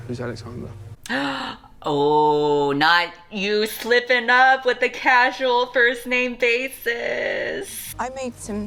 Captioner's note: gasps